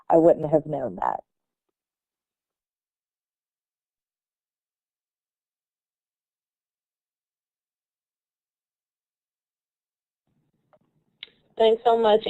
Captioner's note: silence